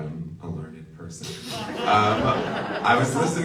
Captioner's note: audience laughs